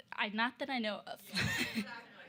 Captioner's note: laughs